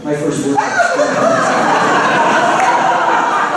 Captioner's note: laughter